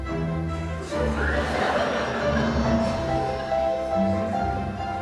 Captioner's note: laughing; upbeat stringed music instrumental